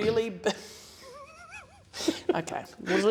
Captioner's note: laughter